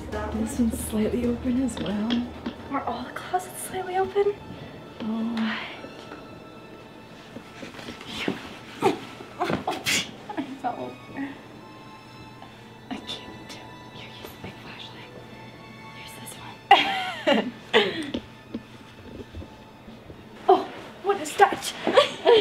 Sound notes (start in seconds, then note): 9.0 grunting; 16.6 giggling